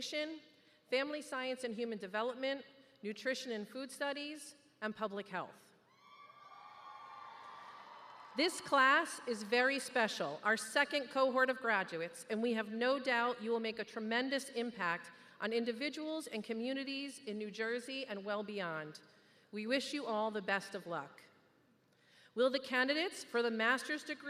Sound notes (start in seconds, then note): 8.1 cheers